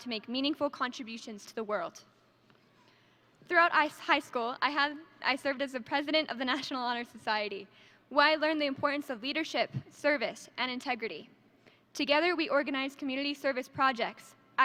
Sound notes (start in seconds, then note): none